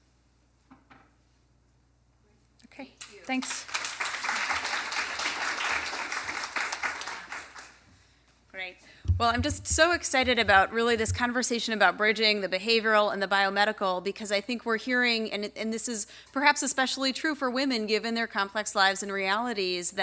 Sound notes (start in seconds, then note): 3.0 applause